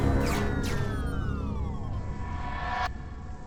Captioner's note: powers down